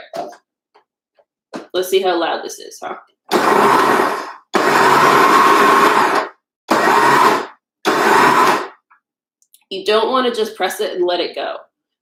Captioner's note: food processor noise